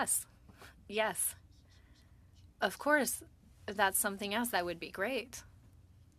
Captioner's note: speaking French